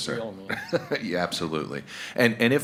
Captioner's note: chuckles